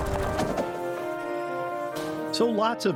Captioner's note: tires going over dirt road